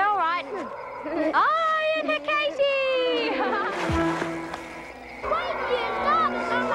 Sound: laughs

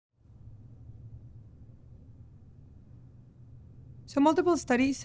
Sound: silence

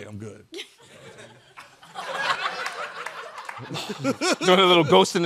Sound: chuckling

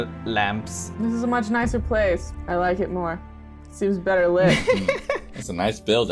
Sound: laughter

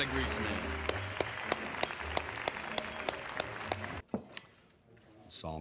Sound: enthusiastic applause

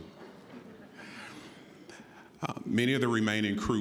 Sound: audience chuckling

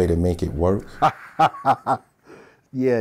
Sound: laughing

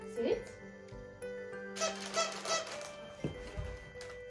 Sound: present squeaks

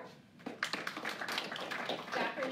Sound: applause

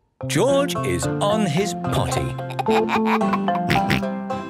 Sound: giggles, snorts

